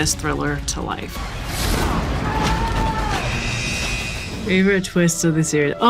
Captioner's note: alarm buzzes; prisoners scuffle